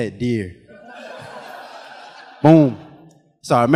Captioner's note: audience laughing